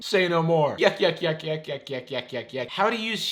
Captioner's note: laughing